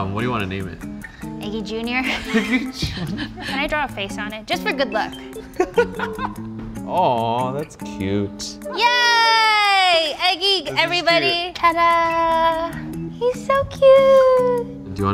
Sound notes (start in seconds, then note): 2.0 laugh; 5.4 laughs